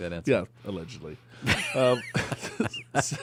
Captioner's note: laughs